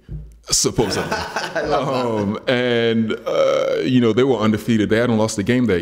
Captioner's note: laughs